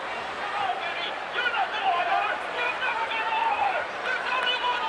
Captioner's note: crowd chattering